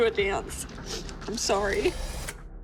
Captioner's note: sniffles; dramatic music playing